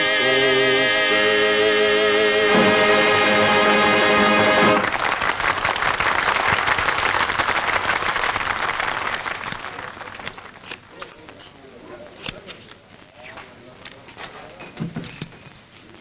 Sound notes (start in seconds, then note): 5.3 patrons clap